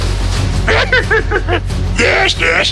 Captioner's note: Yoda laughs